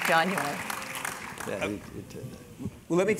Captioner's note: applause